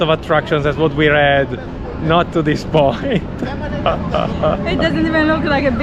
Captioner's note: laughing